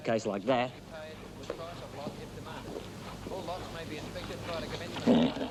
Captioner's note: announcer speaking through PA